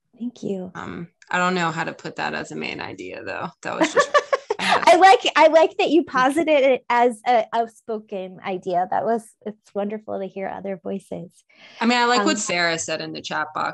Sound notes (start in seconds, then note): 3.8 laughs